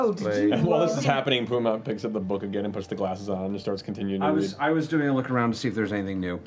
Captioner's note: none